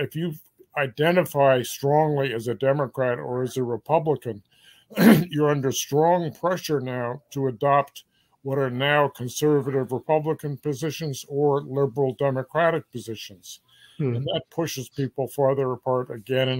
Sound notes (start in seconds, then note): 4.9 cough